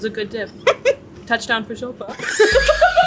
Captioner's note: both laugh; laughs; drum beats